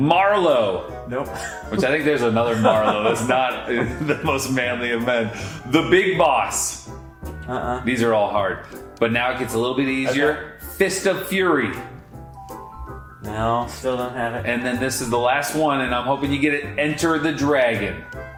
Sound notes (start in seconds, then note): 2.2 laughs; 11.6 upbeat music